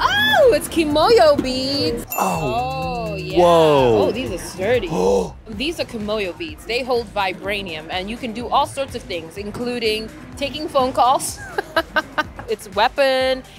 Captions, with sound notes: Oh, it's Kimoyo beads! [BELL DINGS] Oh, whoa! These are sturdy. These are Kimoyo beads. They hold vibranium. And you can do all sorts of things, including taking phone calls. [LAUGHS] It's a weapon.